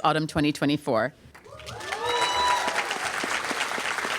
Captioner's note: applause